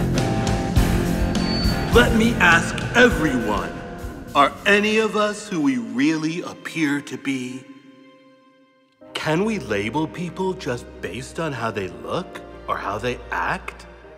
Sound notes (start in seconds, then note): 1.3 microphone squeaks